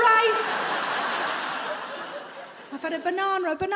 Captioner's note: audience laughing